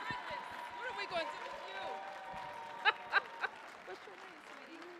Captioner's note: audience cheering; laughs